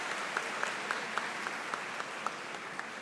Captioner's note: cheers and Applause